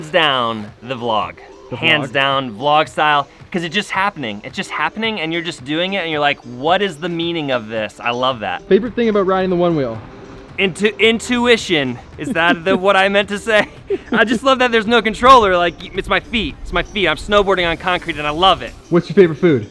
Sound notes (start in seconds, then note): 12.0 laughs